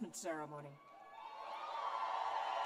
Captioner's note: cheers and applause